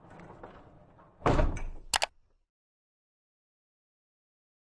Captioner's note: rolling, click